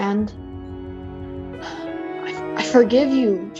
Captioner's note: sigh number four